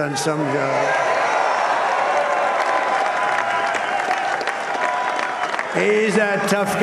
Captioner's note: applause